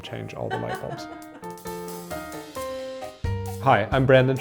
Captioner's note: camera person laughing